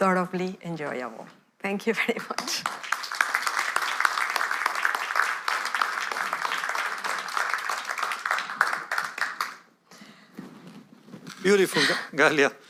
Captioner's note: applause